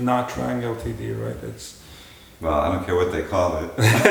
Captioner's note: laughter